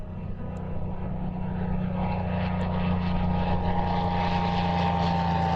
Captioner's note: music fades; airplane engine rumbling